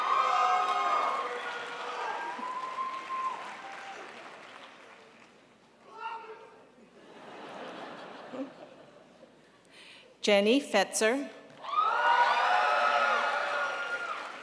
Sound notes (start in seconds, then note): 0.0 crowd applauds; 5.9 member shouts; 6.8 crowd laughs; 11.6 crowd applauds